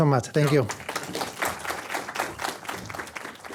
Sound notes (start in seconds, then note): 0.3 applause